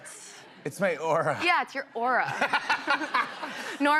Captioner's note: laughter